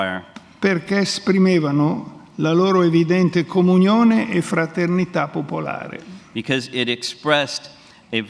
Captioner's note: speaks in Italian